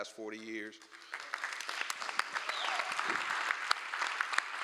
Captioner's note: applause